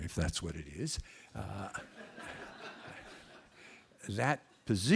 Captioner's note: laughter